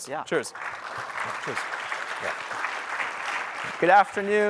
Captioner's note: applause